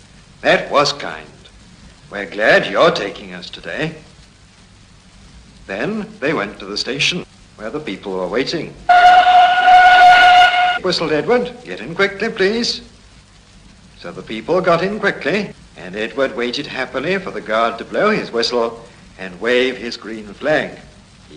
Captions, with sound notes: “That was kind, we are glad you are taking us today.” Then they went to the station where the people were waiting. (train whistle) whistled Edward-“get in quickly, please.” So the people got in quickly and Edward waited happily for the guard to blow his whistle, and wave his green flag.